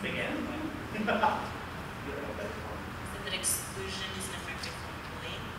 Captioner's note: laughter